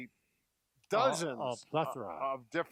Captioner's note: mumbles